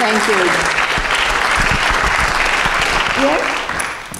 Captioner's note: applause